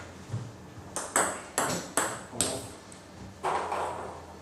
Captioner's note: balls ping pong hitting